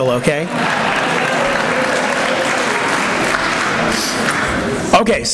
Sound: applause

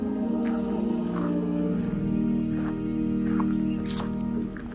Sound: water lapping

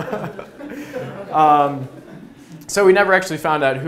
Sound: laughs

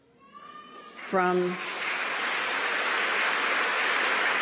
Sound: applause

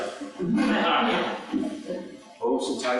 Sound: laughter

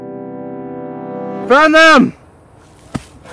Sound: soldier calling

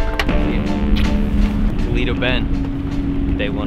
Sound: smooches

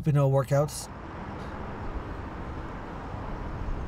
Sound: ambient traffic noises

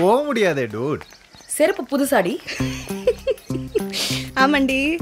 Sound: dude Laughing

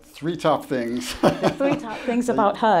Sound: laughs

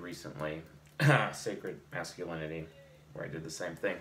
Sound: clears throat

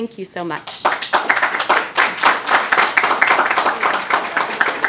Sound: audience applauding

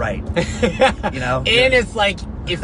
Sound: laughs

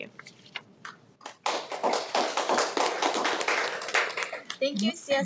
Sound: applauds

